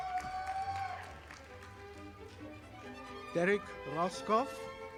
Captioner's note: audience applauding